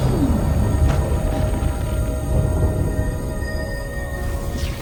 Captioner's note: thunder rumbling